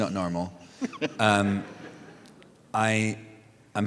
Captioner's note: laughter